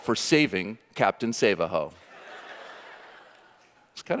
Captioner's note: audience laughing